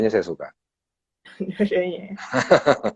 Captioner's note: laughs